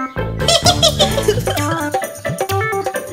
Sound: monkeys laugh

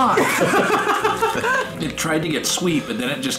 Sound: laughing loudly

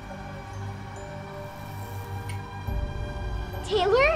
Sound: lights flicker

